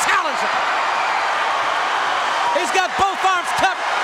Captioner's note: audience cheering